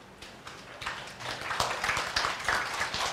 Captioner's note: clapping